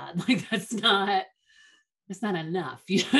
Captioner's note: chuckles